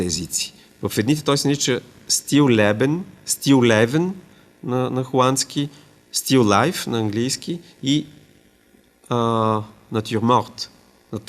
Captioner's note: German; Latin